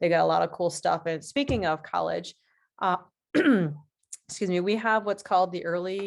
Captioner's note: clears throat